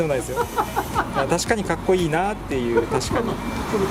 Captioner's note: laughs